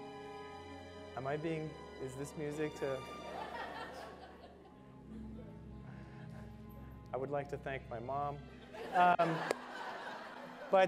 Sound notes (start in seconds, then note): 2.9 audience laughter; 8.6 audience laughter